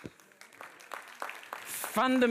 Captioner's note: audience applauds